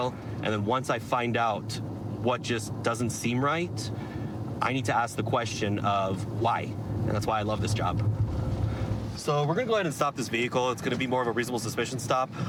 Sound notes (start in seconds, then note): none